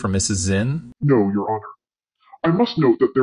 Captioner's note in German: verzerrt